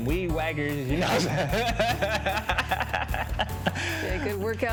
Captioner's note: both laugh